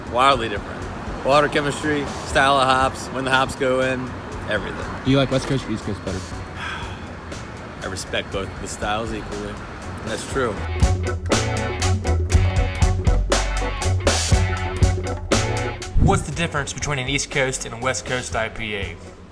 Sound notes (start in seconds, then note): 6.4 sighs; 11.0 laid-back music